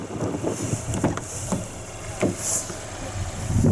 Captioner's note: opening driver's door